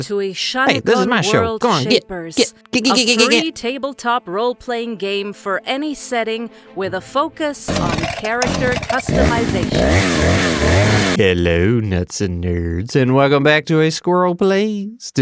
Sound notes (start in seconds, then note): 7.6 chainsaw revving up